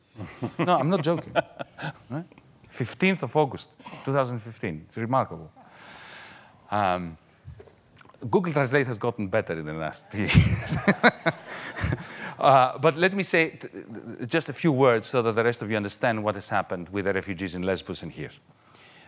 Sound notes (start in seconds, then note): 0.0 laughing; 10.2 laughs